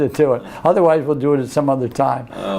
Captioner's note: laughs